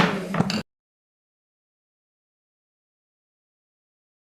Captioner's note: gavel clanks